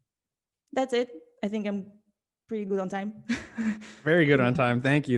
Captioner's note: laughs